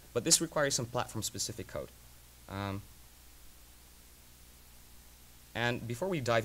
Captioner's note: pause